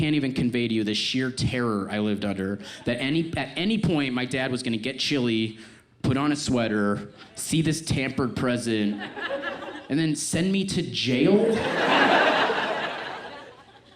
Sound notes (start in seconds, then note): 8.8 audience laughs; 11.4 audience laughs